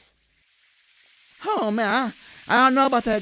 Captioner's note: grease sizzle and pop